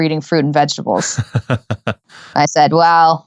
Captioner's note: laughing